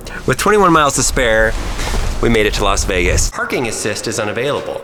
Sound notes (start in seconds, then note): 3.5 car voice